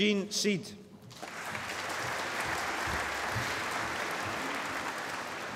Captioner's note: applause